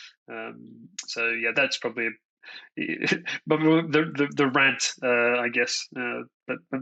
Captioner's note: laughs